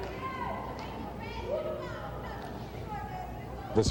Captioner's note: ambient crowd noise